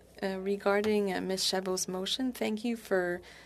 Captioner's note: speaking French